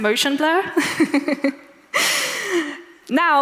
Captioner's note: laughs